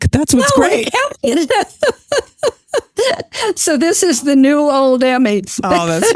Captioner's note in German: Lacht